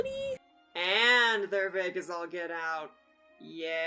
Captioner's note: sarcastic tone